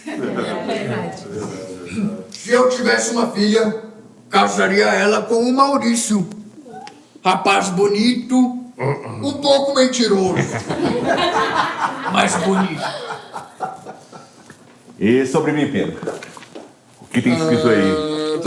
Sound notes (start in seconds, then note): 10.2 laughter; 13.4 laughter subsides